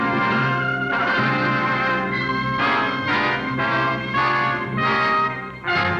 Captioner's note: horn Blows